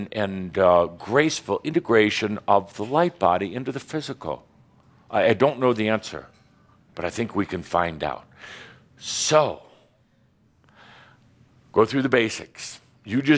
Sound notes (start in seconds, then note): none